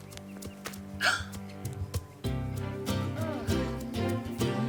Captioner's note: Evelyn gasps